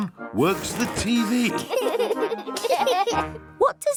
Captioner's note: laughter